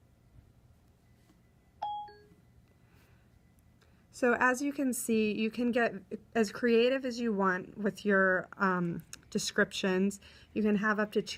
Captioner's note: phone dings